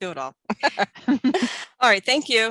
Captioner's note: laughs